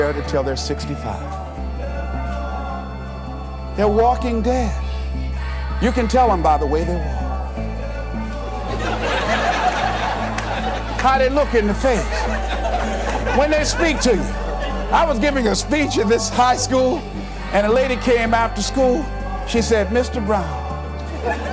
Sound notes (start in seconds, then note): 8.2 laughter